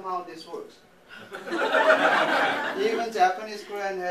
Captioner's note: laughter